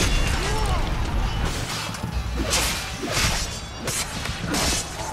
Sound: fighting sounds

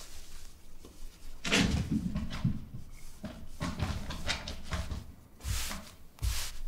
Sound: cats playing in the background

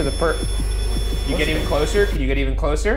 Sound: REM-Pod beeping

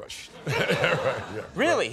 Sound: laughter

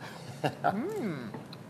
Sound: laughs

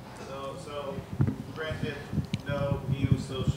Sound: speaks faintly

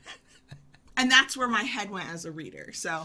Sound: laughing

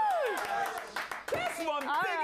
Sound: audience cheering

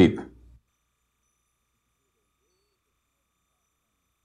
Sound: silence

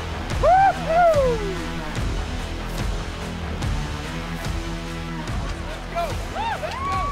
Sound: dramatic music; cheering

